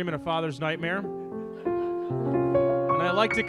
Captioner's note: audience laughs